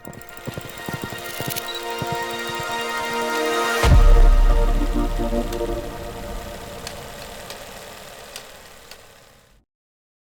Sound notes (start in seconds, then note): 0.0 audio clacking; 0.0 audio chiming; 0.3 audio thumping; 3.8 audio rattling; 3.9 audio booming